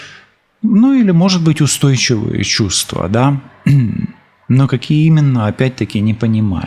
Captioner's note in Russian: откашливается